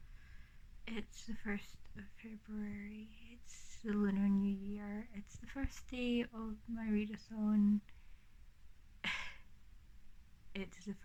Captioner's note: laughs